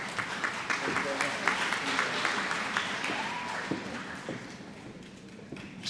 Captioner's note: applause